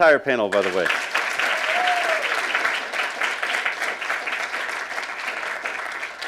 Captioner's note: applauding and cheering